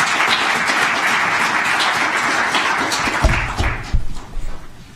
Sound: applause

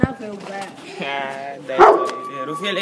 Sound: laughs

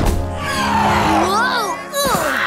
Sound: cawing; shrieks

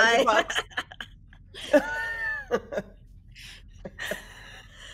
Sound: people laughing

